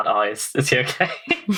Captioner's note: laughing